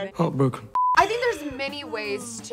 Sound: beep

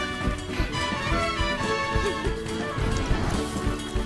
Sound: chuckles

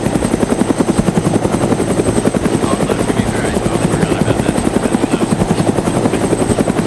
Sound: laughs

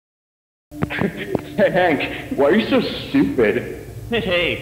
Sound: snickering

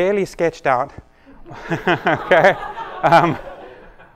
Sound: laughter

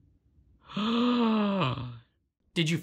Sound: awed silence; long gasp

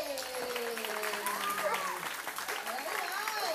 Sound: clapping

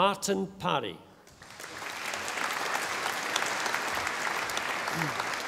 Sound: audience applauding

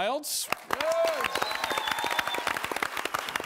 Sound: cheering; whistling

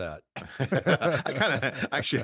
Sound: both laughing

